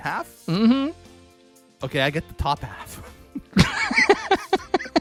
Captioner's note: laughs